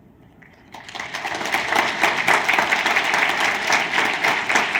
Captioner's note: audience applauding